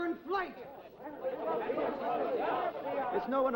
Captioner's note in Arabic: ثرثرة غاضبة